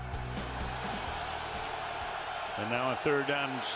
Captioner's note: cheering